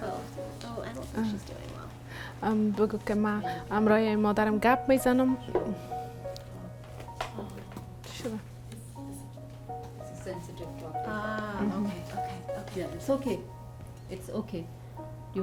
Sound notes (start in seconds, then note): 0.0 woman speaks in a foreign language; 2.9 woman speaks in a foreign language